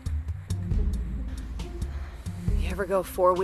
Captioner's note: pants gently